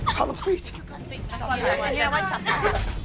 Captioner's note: girls sobbing